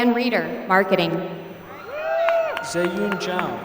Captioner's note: applause